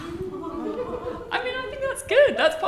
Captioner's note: participants laughing